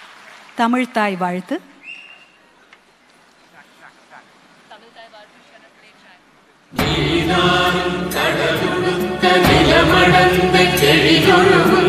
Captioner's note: applause